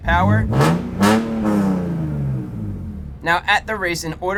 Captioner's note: loud revving noises